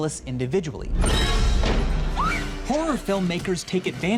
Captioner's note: Sidney screams